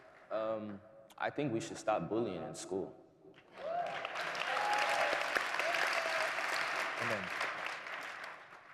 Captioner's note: cheering